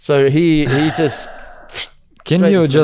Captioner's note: sighs